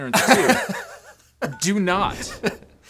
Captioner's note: laughing